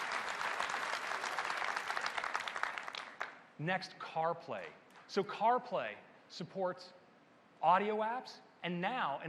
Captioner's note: applause